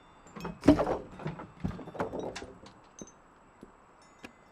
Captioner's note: wood thudding